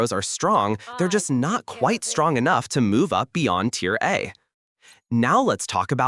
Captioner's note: analytical tone